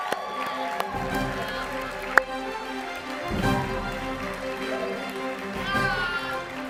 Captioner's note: audience clapping and cheering